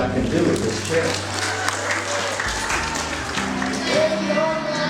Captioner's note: applause